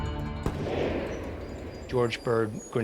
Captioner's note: gunshot